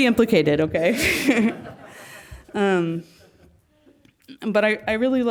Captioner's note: laugh